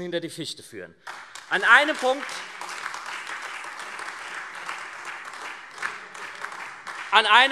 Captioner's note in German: Beifall SPD, AfD und Freie Demokraten